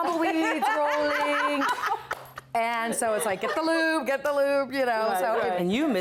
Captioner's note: laughter